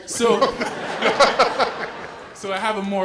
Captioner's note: laugh